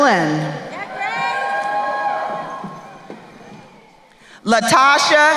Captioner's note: crowd cheering